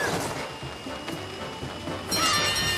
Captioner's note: frantic music; Captain Flamingo screams